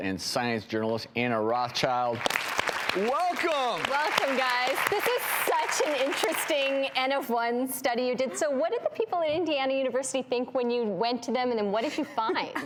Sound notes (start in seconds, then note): 2.0 audience clapping